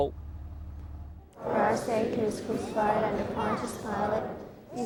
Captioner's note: church Congregation